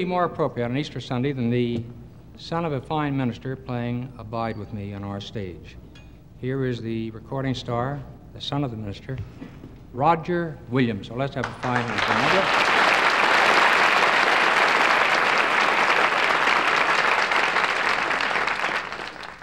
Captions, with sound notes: - What could it be more appropriate on Easter Sunday than the sound of a fine minister playing "Abide With Me" on our stage? Here is the recording star the son of a minister Roger Williams Let's have a fine hand for him (audience clapping)